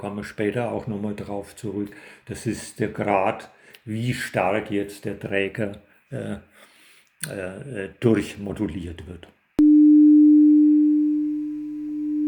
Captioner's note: modulated signal